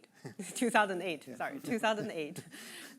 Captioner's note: chuckling